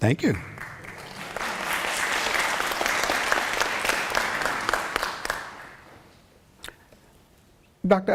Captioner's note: applause